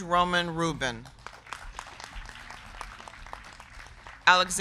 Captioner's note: crowd clapping